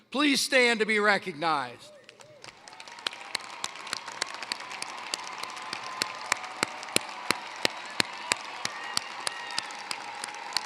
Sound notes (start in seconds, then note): 1.9 applause